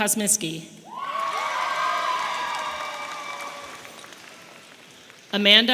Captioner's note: audience applauding and cheering